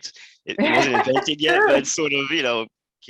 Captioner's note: laugh